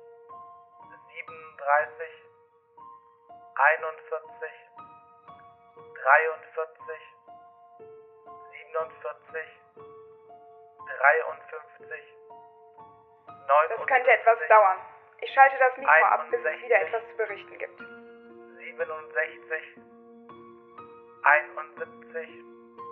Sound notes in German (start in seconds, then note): 3.8 Silence for 10 seconds; 12.1 Silence for 20 seconds